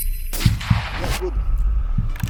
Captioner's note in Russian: выстрел